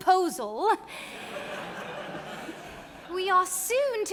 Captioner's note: audience laughing